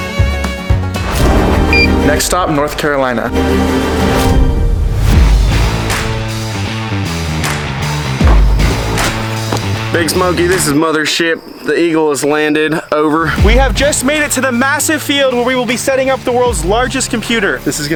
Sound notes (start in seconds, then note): 0.0 upbeat country music; 1.7 ticket reader beeps; 5.5 epic music